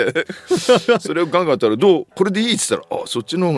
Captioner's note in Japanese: 笑い